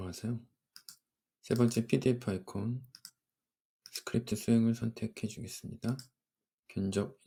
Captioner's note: double click